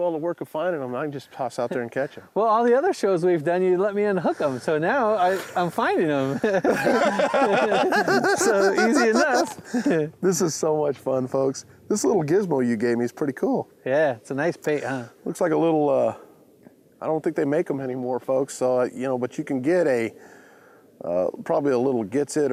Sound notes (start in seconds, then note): 6.2 laughter